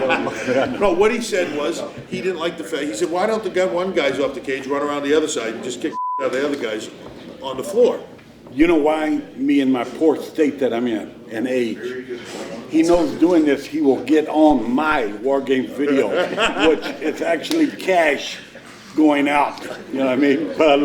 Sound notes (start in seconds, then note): 0.0 group laughing; 5.9 beep